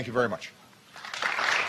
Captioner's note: applause